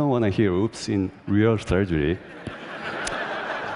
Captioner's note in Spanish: Risas